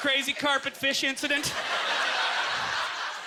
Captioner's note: audience laughter